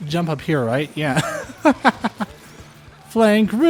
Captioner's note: laughter